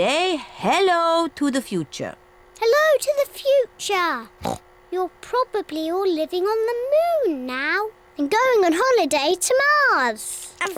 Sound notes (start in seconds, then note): 4.4 oinks